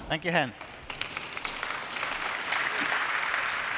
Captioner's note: applause